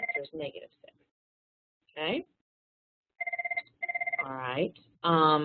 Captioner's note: telephone ringing